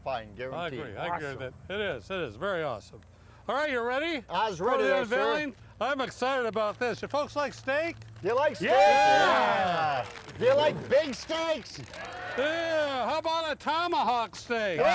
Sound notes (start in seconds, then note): 8.8 shouting